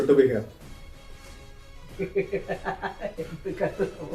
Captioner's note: laughs